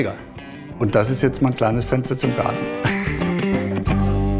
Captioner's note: laughs